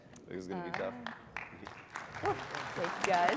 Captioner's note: applause